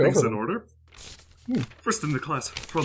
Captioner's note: papers rustling